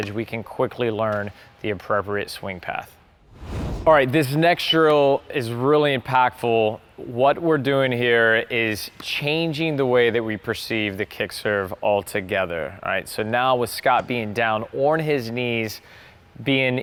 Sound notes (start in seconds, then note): 3.2 air whooshing